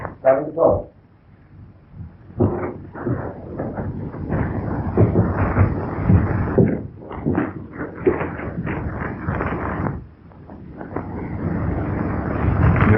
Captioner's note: pounding